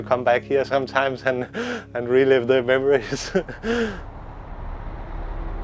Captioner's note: chuckling